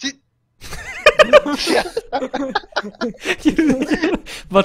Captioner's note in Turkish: herkes güler